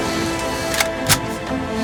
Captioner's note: gasping continues; gun cocking